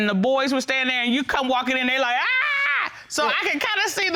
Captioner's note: screaming